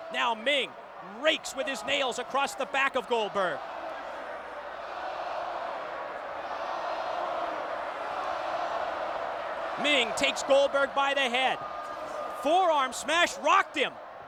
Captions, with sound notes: Now Meng rakes with his nails across the back of Goldberg. (crowd chanting "Goldberg") Meng takes Goldberg by the head. Forearm smash rocked him.